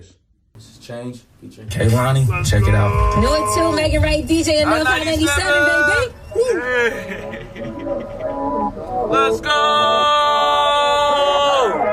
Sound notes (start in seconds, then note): 5.2 men whooping; 7.2 mid-tempo music